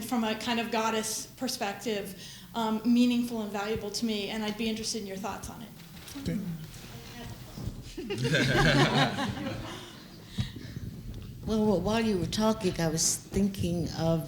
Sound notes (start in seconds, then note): 7.9 laughter